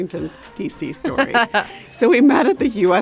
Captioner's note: laughs